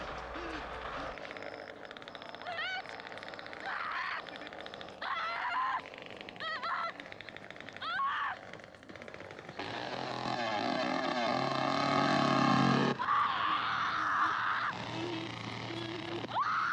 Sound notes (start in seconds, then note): 2.4 screaming